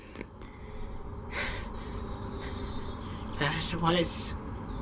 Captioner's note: quick, shallow breaths